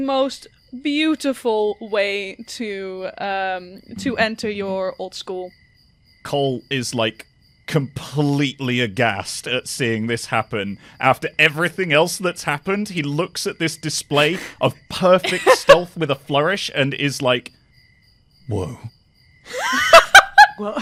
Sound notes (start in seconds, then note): 14.9 Rover laughs; 19.4 laughter